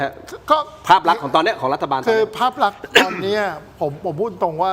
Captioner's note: clears throat